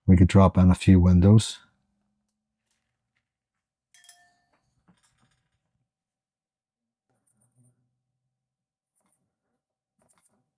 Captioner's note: silence